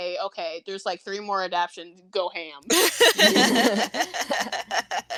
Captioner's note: laughter